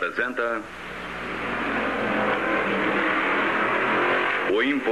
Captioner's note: car Engine Revving